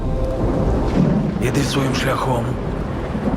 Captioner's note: thunder rumbling